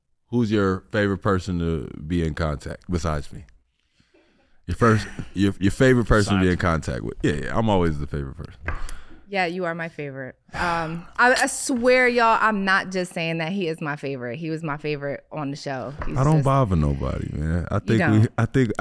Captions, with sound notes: who's your favorite person to be in contact? Besides me. (audience chuckles) - "Besides me." - Your favorite person to be in contact with. Yeah, yeah. I'm always the favorite person. - Yeah, you are my favorite. I swear y'all, I'm not just saying that. He is my favorite. He was my favorite on the show. He's just- - I don't bother nobody, man. - You don't.